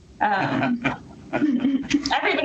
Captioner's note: chuckles